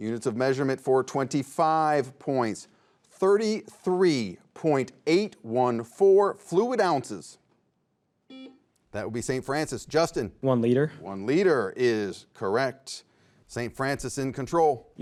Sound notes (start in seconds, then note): 8.4 buzzer beeps